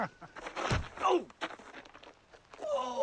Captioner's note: moans in pain